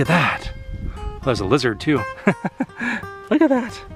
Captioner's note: laughter